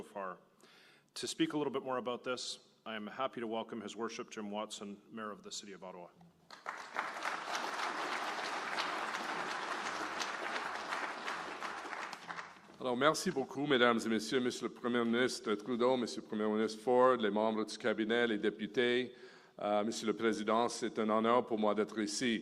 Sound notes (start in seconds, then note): 6.4 applause; 18.2 speaking French